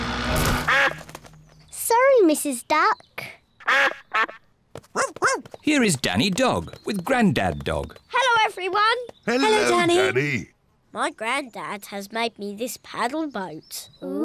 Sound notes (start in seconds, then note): 0.6 duck quacks; 3.6 quacks; 4.9 barks